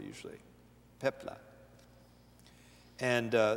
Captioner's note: foreign language